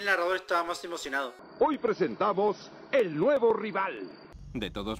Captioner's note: in Latin Spanish